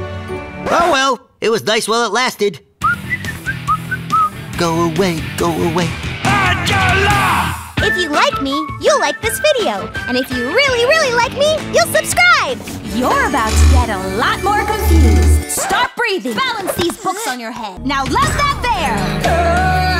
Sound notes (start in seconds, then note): 2.8 whistling